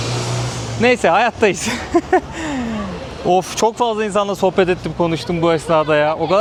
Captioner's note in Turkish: kahkaha